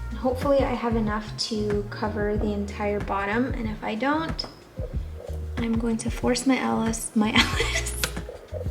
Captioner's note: laughs